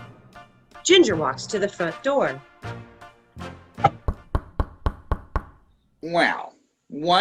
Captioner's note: knocks at door